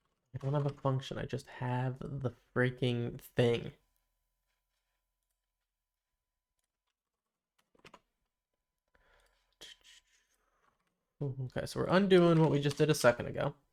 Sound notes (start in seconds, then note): 3.9 silence